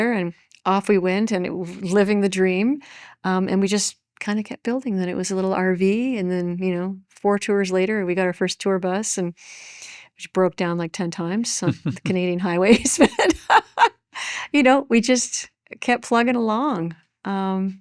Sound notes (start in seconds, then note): 11.6 chuckles